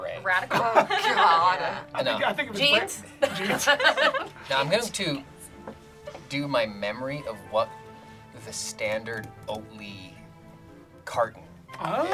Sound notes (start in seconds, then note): 3.4 group laughs